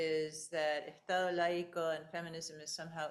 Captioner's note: speaking in foreign language